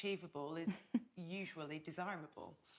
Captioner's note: chuckles